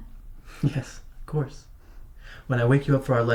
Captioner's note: chuckles